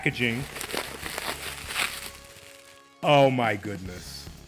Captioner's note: paper crumpling